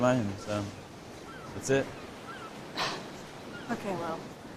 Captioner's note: sighs